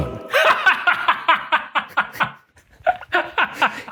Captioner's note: laughing